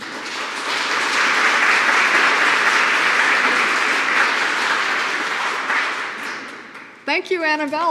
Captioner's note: applause